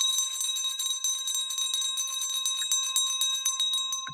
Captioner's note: bell ringing